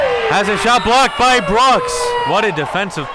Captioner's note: whistle blows